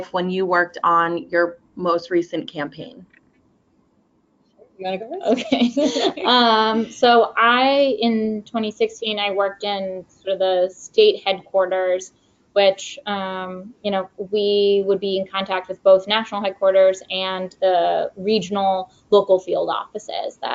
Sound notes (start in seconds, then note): 5.2 both laugh